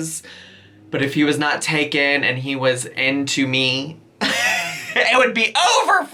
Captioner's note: laughs